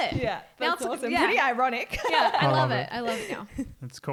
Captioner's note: laughing